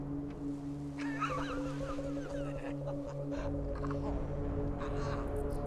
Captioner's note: both chuckling